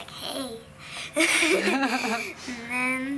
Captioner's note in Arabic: يضحك